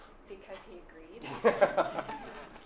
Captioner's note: laughs